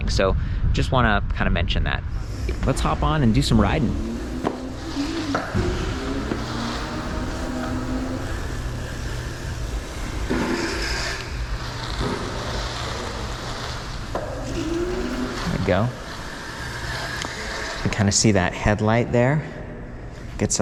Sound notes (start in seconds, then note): 4.2 engine roaring